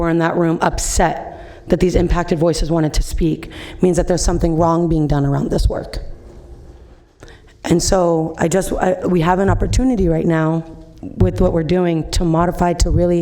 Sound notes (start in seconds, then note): none